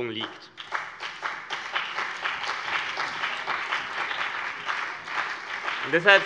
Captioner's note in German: Beifall CDU und BÜNDNIS 90/DIE GRÜNEN